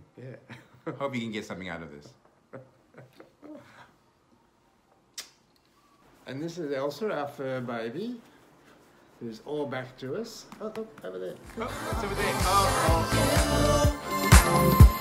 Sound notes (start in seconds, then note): 0.2 chuckles; 2.5 laughs; 11.4 upbeat music